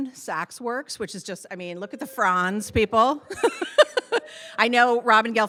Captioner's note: laughs